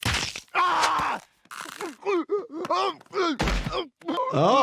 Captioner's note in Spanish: Brian grita